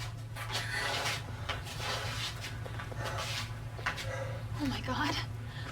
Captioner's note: Jack breathing heavily